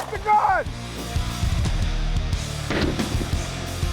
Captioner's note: gun shot; slow motion gun shot; heavy metal music